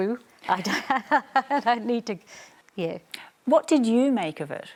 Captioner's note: laughs